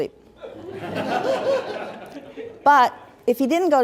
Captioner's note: laughter